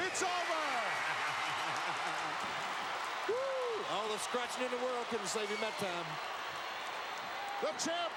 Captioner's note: laugh